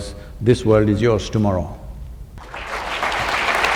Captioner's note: applause